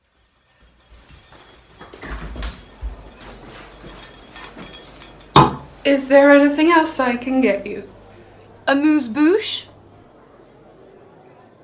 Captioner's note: Sketch audio plays